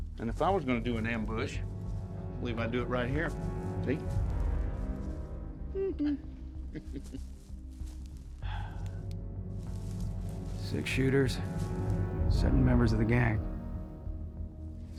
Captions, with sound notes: IF I WAS GONNA DO AN AMBUSH, MIGHT DO IT RIGHT HERE, SEE? [PEEKABOO SOUND] [SIGHS] SIX SHOOTERS... SEVEN MEMBERS OF THE GANG...